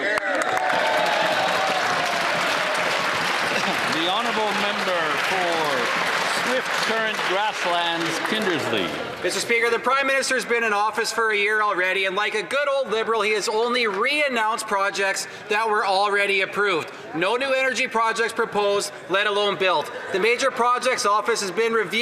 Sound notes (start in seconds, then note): 7.2 some Applause